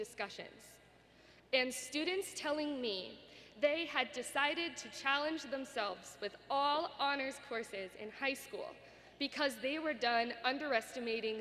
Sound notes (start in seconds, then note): none